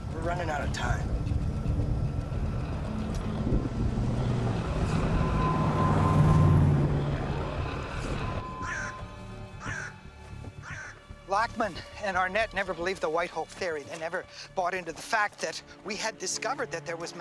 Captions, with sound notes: We're running out of time. (thunder rumbling) (bird squawking) Lockman and Arnett never believed the white hole theory. They never bought into the fact that we had discovered